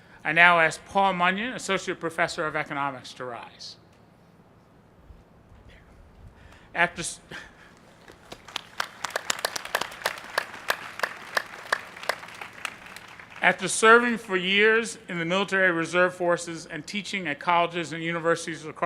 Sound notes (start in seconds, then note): 10.9 applause